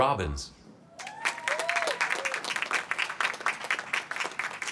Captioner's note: applause